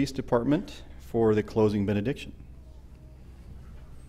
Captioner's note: none